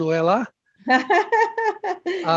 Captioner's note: laughter